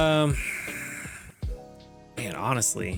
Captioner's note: sighs